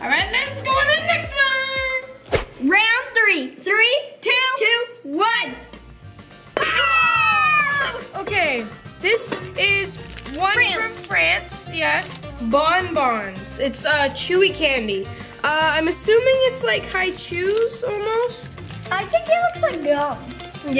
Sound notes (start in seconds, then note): 6.6 excited yelling